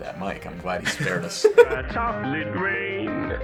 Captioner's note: laughs